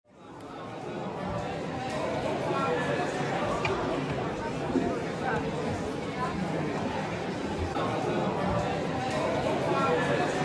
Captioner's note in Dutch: Geroezemoes van het publiek